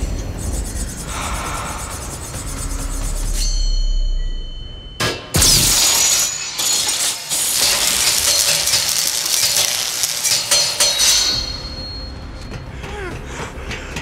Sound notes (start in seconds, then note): 0.0 blade chafe; 5.2 metal blades chime; 7.4 blades screech and clang; 12.8 Jesse panting